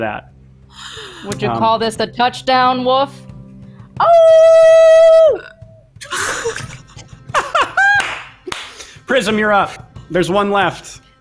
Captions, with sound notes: - Would you call this the touchdown Wolf? (howls) - Prism, You're up? There's one left.